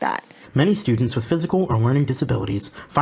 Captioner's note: voiceover